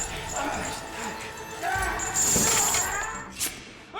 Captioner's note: yelling; shears snip